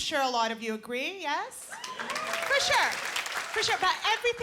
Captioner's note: cheering